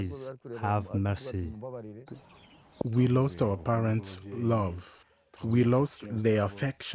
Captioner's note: through translator; through translator